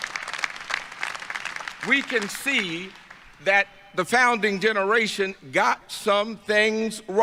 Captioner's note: applause